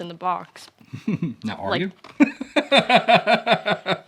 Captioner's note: laughs